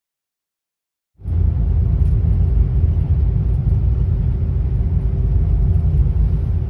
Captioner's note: train rumbling